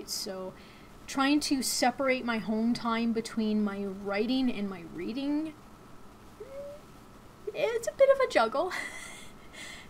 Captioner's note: chuckles